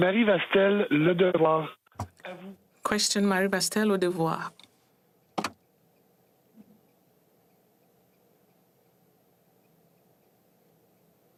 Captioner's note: speaking French